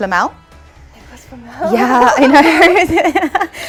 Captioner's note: laughs